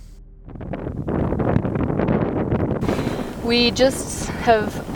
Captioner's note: snow swooshing